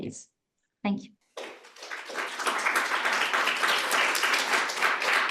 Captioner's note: audience clapping